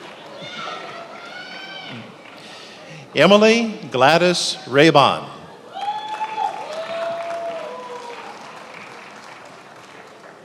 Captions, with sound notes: Emily Gladys Rayvon. (attendees applauding)